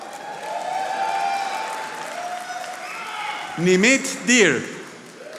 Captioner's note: audience applauding